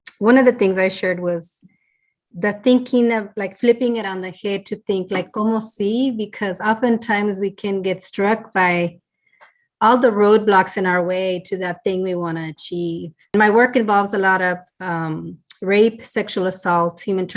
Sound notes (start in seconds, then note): 5.7 speaking Spanish